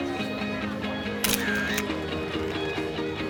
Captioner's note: camera shutters